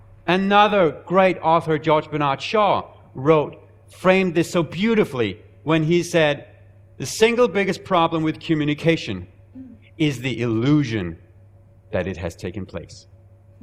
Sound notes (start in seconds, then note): none